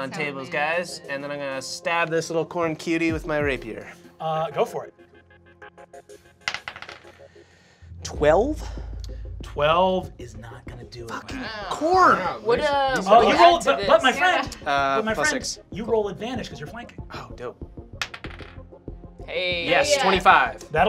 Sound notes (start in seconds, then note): 4.9 dice clacking; 4.9 tense music; 18.0 dice clacking